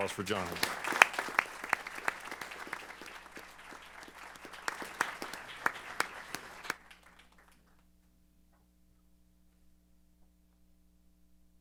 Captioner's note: applause